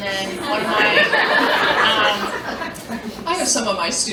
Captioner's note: laughter